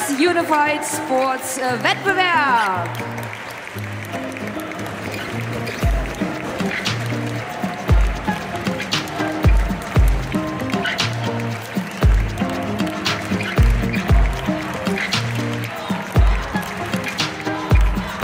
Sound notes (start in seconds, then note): 3.5 applause; 3.5 ♫ Midtempo guitar music ♫